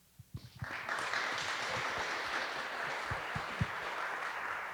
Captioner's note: audience applauding